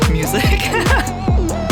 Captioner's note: laughing